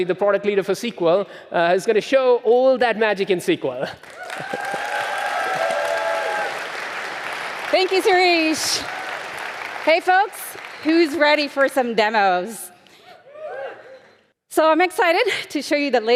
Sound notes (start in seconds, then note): 4.0 audience applauding; 13.0 scattered cheers from audience